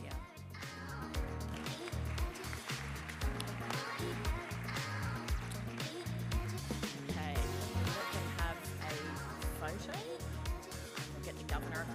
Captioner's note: applause